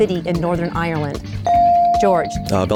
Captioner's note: bell dings